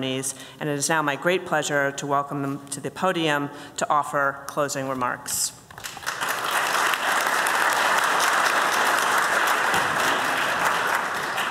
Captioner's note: applause